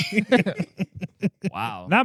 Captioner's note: laughter